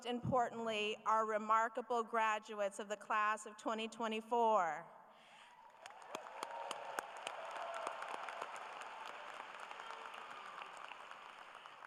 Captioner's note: applause